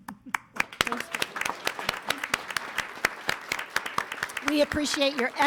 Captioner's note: attendees applauding